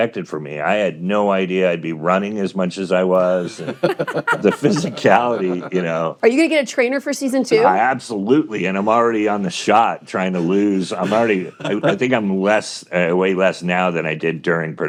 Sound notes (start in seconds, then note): 3.1 hosts laughing